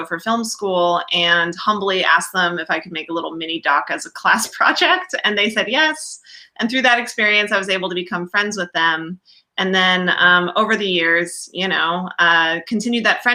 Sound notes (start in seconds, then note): none